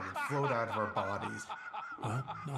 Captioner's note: laughing